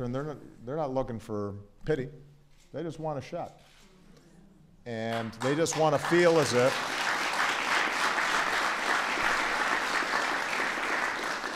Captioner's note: applause